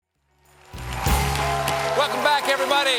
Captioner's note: applause